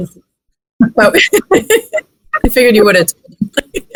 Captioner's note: laughs